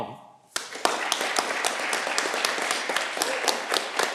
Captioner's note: audience clapping